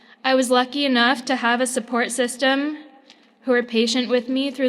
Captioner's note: none